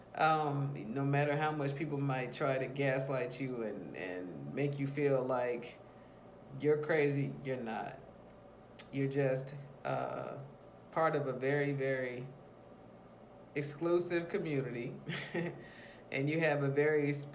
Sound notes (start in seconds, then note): 15.0 chuckles